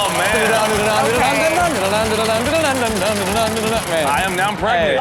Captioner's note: equipment rattling